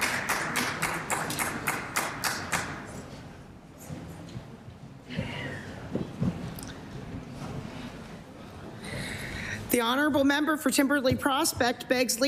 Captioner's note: applause